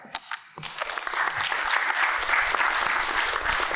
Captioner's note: applause